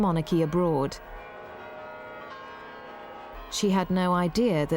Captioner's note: bells ringing